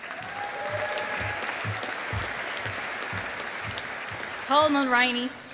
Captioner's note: audience applauding